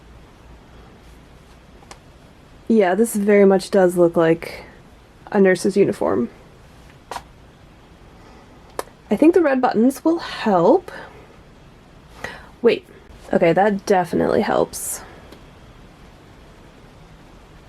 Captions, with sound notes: Yeah, this very much does look like a nurse's uniform. *lip pop* I think the red buttons will help...? Wait! Okay, that definitely helps.